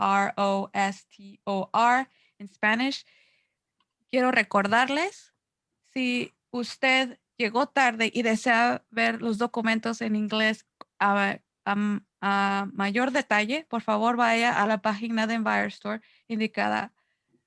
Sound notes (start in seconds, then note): 4.0 Spanish